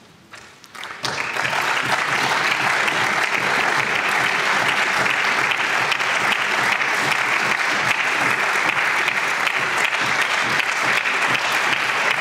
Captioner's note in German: Applaus